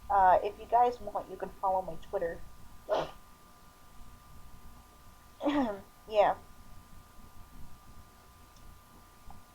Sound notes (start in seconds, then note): 5.4 clearing throat